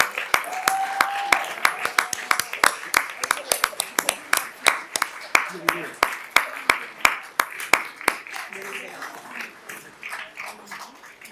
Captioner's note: applause